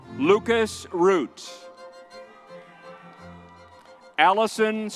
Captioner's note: crowd cheering